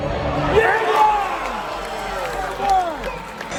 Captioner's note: crowd roars